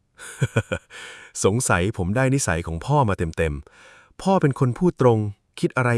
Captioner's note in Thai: เสียงหัวเราะ